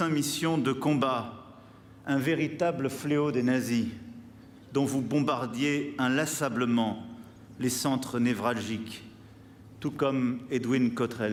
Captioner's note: speaking french